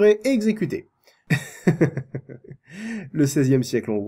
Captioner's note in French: rire ironique